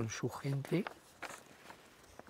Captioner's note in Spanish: Sonido de papeles